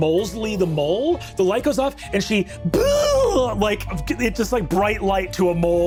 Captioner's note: yelps